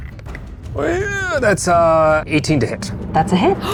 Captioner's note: die rattling